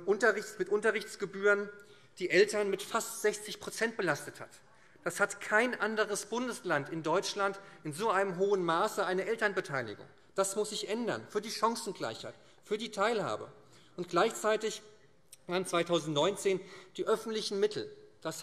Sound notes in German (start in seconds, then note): none